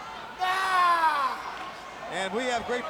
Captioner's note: Macho Man yells